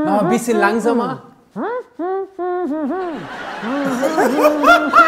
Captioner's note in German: lacht schallend; Gelächter